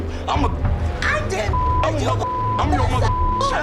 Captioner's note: beeping